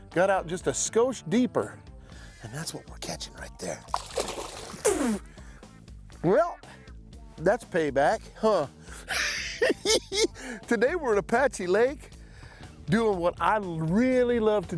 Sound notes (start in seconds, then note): 5.2 spitting sound